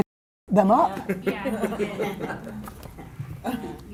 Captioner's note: laughing